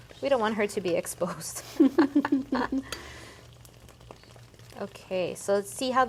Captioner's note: both laughing